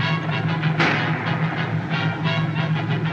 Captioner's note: gunshot